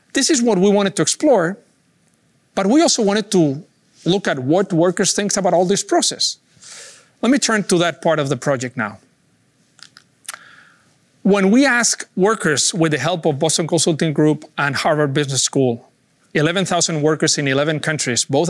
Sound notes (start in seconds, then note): 9.8 clicks